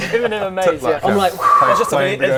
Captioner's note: whoo